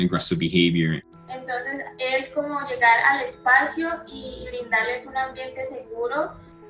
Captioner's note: speaking in foreign language